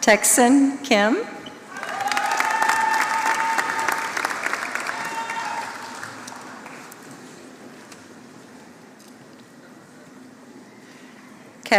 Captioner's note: applause